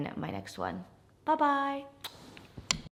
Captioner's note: lips smacking